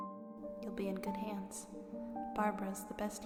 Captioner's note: voice echoing